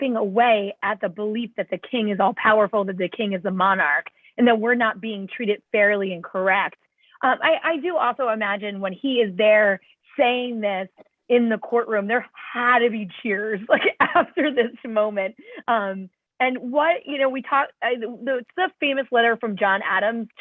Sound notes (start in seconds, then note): 13.8 laughter